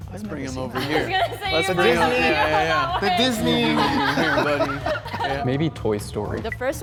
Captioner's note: laughing